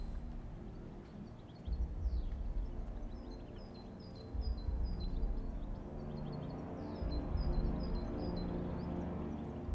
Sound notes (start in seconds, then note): 4.2 birds chirping; 4.2 gentle tense music